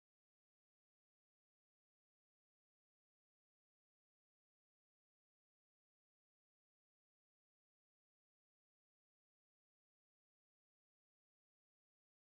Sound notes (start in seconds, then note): none